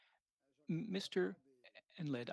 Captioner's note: speaking French